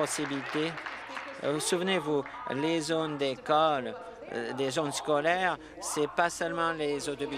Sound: applause

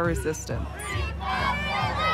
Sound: protesters chanting

